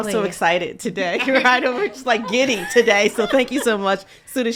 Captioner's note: people laughing